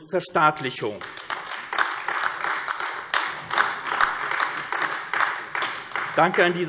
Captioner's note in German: Beifall AfD